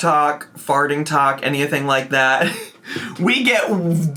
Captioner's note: laughs